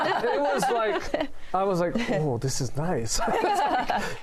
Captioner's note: laughter